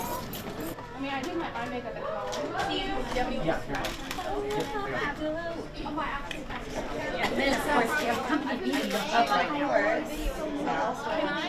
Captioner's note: chatter